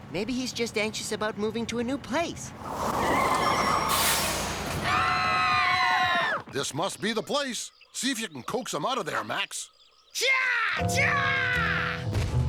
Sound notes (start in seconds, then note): 4.5 screaming